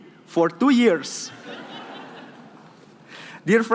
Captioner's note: laughing